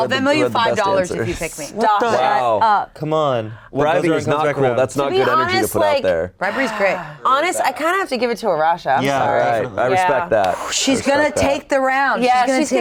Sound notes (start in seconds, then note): 6.7 sighs